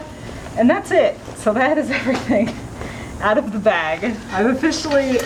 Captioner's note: laughing